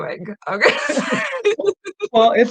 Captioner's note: laughing